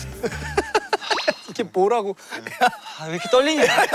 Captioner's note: sigh